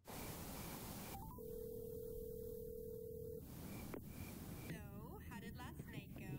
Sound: phone ringing

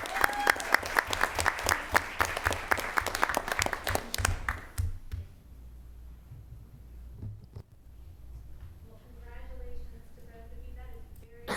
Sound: applause

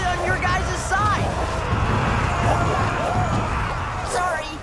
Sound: screaming

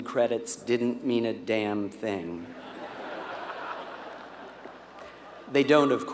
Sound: laugh

